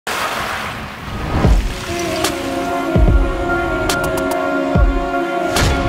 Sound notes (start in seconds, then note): 0.0 crashing waves; 1.4 relaxing music